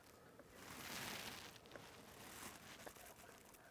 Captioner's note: grass rustles